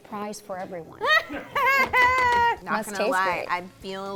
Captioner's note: laughs